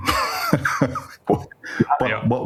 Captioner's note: laughs